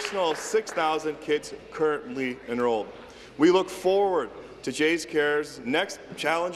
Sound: applause

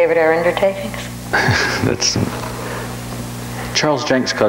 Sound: laughs

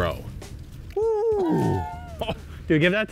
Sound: laughs

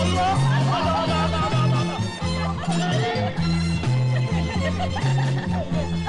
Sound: girls laughing

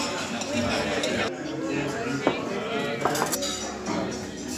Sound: cafe patrons chattering

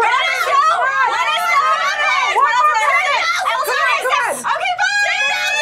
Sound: everyone yelling

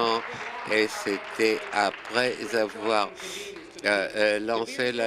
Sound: applause

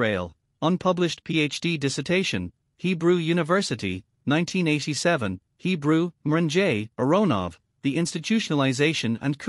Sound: Hebrew

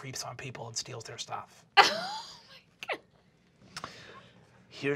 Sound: laughs

